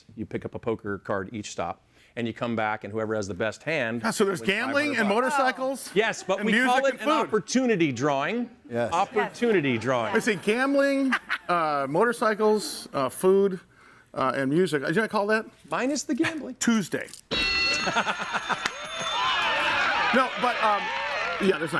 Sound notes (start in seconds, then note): 17.2 bell dings; 18.4 audience applauds and cheers